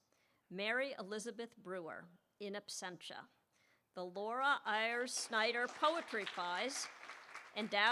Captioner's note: applause